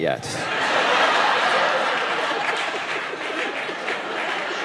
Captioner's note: audience laughing